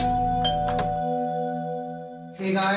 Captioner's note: Door bell ringing